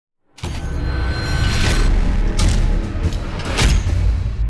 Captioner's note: metal clanging